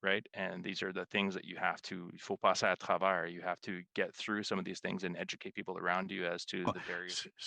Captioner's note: speaking French